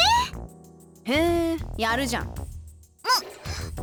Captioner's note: impressed hum